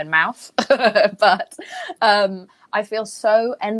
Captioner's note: Jameela laughing